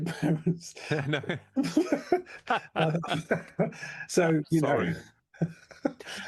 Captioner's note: laughs